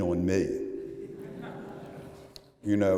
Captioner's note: laughter